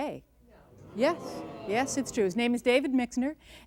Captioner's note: surprised reaction and groans from audience